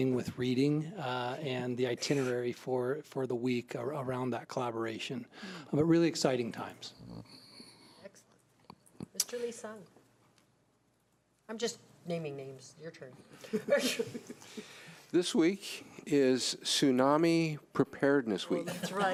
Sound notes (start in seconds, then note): 13.4 laughing; 18.6 laughing